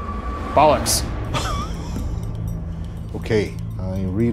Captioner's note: chuckling